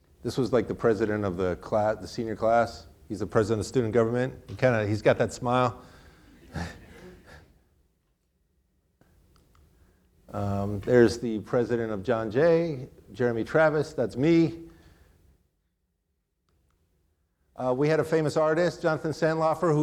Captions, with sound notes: This was like the president of the senior class. He's the president of student government. He's got that smile (chuckles). There's the president of John Jay, Jeremy Travis. That's me. We had a famous artist, Jonathan Santlofer,